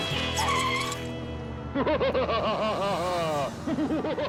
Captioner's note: evil laughter